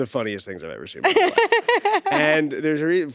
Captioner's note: laughing